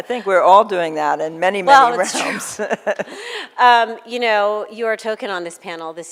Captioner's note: laughs